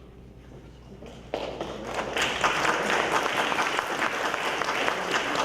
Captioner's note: audience applause